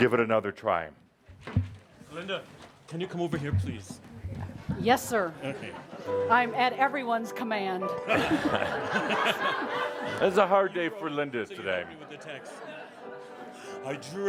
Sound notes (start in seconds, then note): 8.0 lots of laughter